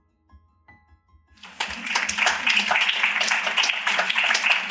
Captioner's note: applause